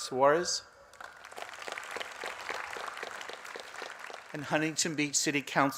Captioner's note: applause